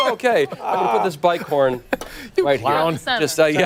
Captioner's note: laughter